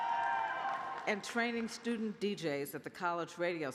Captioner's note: cheers